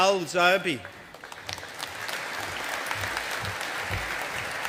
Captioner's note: audience applauding